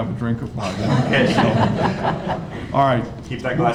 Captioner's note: all laughing